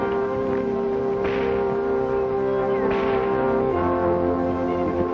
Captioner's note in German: Peitsche knallt